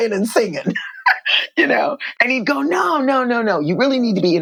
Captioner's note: laughter